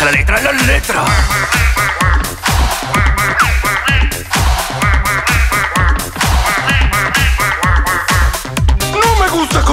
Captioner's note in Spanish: Sonido de pato